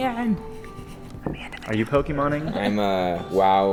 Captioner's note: whispers